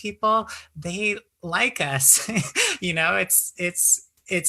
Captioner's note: laughs